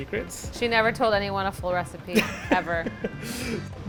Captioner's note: laughs